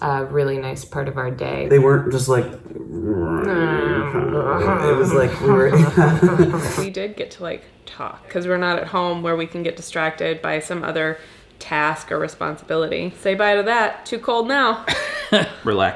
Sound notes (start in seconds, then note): 1.5 grunting; 6.0 laughing